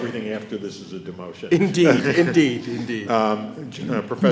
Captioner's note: chuckles